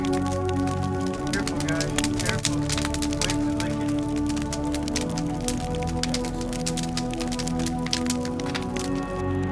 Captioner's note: fire crackles